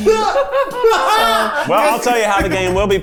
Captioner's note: everyone laughs